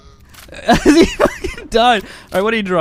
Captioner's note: laughs